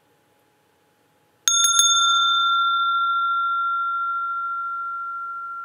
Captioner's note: Klang der Glocke